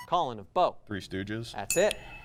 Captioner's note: ding sound